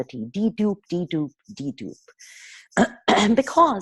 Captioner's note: clearing throat